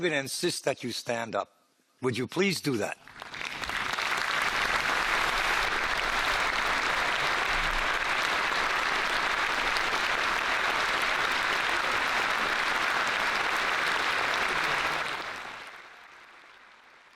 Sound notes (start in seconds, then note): 3.0 applause